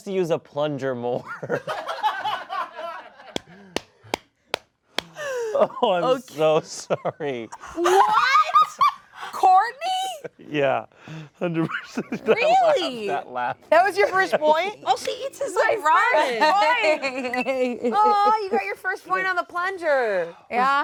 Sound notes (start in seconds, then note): 2.1 all laugh; 7.7 laughs